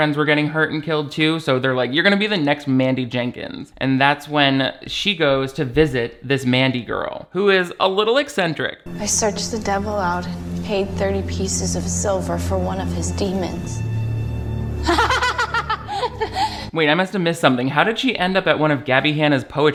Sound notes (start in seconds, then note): 14.8 laughs loudly